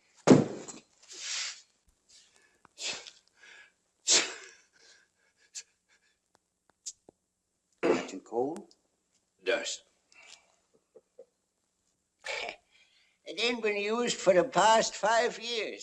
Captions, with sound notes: [ THUD ] [ GASPING ] - Catching a cold? - Dust. It ain't been used for the past five years,